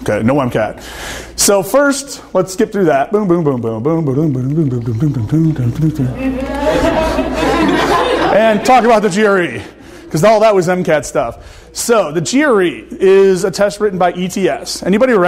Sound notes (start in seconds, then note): 5.8 audience laughing